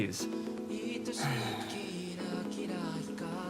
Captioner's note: Lyk sighs in annoyance